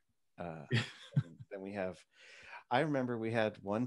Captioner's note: laughs